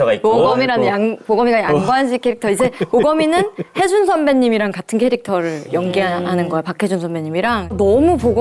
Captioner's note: still laughing